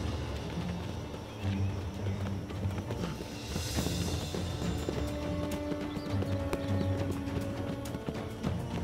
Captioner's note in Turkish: Ayak sesleri